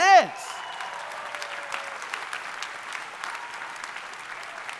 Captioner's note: audience applauding